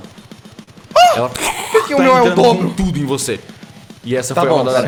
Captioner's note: gurgling